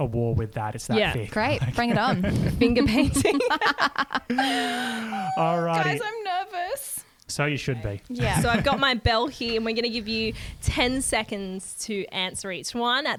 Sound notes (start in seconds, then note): 1.8 laughs; 3.8 laughing together